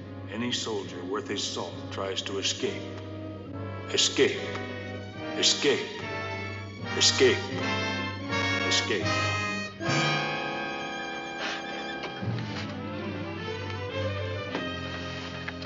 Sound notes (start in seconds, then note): 3.6 echoing; 9.0 dramatic theme playing